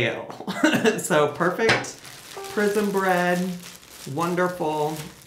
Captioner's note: chuckles